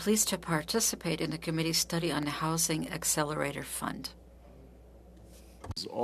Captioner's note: speaking French